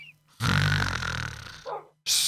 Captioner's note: snores; woof!